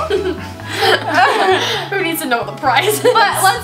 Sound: laughter

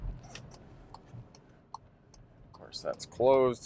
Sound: car signal clicking

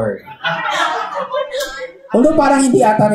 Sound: laughter

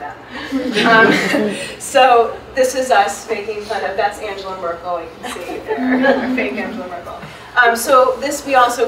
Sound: audience laughs

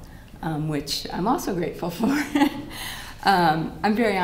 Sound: laughter

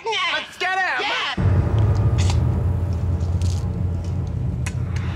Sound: dramatic thunk

